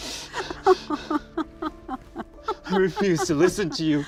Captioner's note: laughing